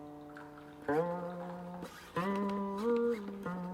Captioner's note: water gurgling